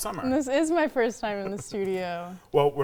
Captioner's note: laughing